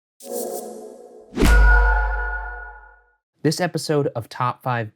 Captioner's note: logo whooshing and pinging